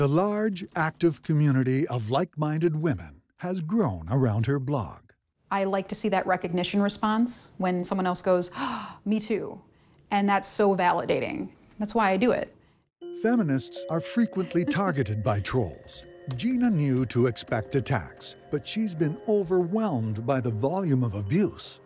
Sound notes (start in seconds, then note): 9.0 gasps